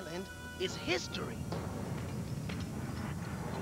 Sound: rumbling

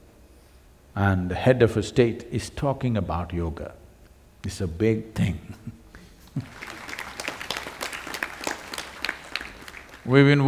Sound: laughs; applause

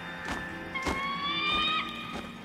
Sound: squawking

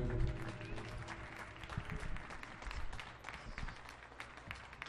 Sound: audience applauding

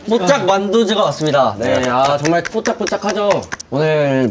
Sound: clap clap clap

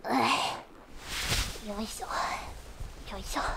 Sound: dragging

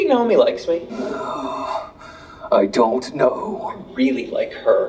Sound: groan

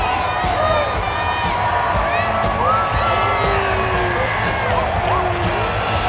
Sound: crowd cheering and booing

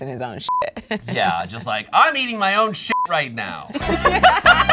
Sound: beep; beep; everyone laughs

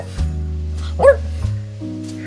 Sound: woof

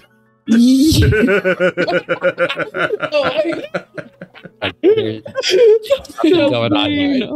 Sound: laughter

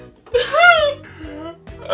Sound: cries

